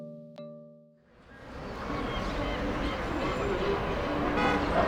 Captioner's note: bird calls and traffic noise